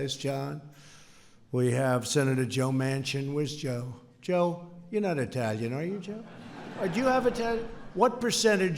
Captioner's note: laughter